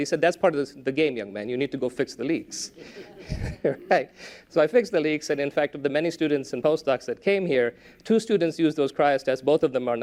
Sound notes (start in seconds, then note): 2.8 laughter